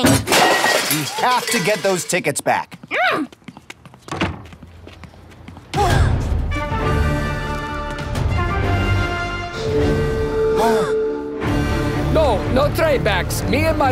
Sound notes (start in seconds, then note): 5.8 Angela grunts; 8.1 both gasp